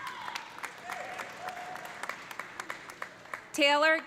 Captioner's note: audience cheering; audience applauding